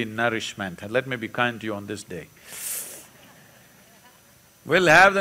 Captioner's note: few laugh